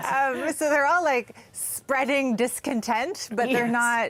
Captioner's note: laughter